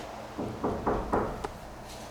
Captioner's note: knocking